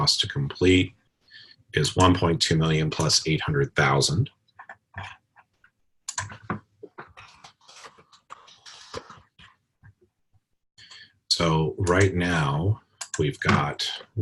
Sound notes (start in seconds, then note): 4.2 typing Sounds